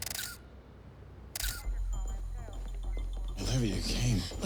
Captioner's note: monitor beeping